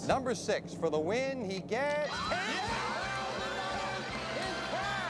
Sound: audience applauding

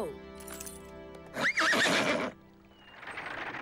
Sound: neighing

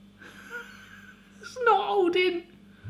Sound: laughs

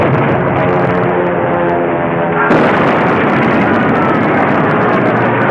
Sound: plane engines humming

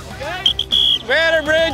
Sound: whistle blowing

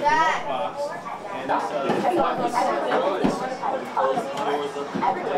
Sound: crowd

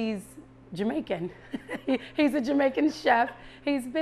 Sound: chuckles

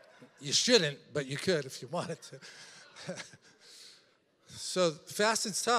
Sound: congregation laughing; laughs

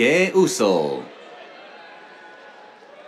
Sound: cheers

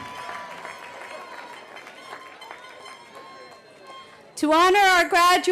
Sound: cheering

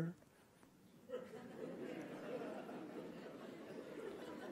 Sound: laughing

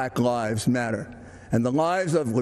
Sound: none

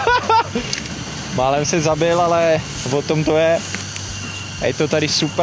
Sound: haha

